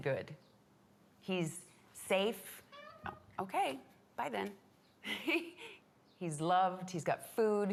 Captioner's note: laughs